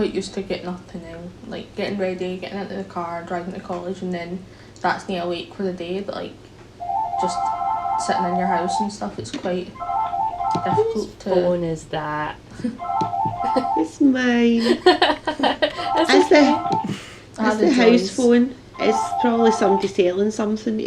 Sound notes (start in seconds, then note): 9.7 phone rings; 14.6 laughter